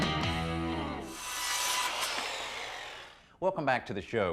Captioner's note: sawing